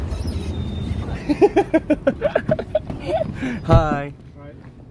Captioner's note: can't stop laughing today